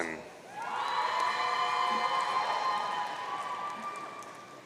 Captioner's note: audience cheering